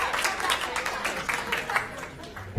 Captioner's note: applause